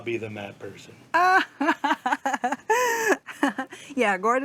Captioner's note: laughs